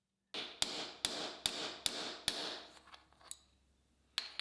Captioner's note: hammer banging